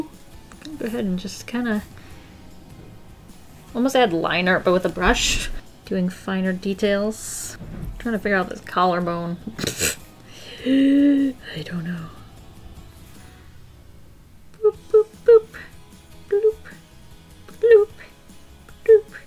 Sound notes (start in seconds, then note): 10.6 laughs